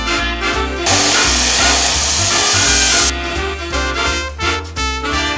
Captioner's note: air compressor spraying